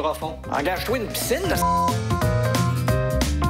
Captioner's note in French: bip!